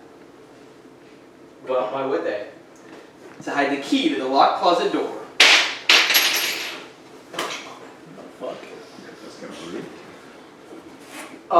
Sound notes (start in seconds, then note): 0.2 silence; 5.8 key falling and hitting floor